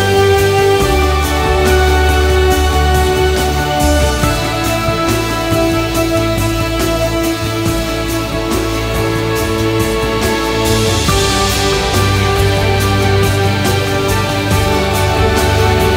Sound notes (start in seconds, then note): 2.2 some applause